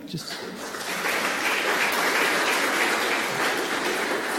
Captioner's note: audience claps